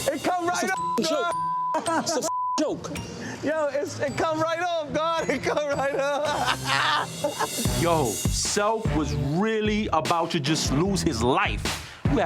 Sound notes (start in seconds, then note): 0.7 beep; 1.7 laughs; 5.2 laughs